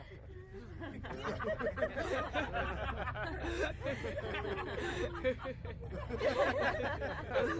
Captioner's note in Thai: เสียงหัวเราะ